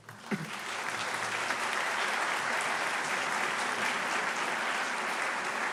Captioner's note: applause